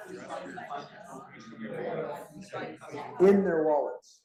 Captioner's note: students chattering